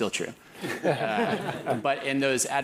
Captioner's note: laugh